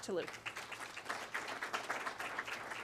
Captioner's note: clapping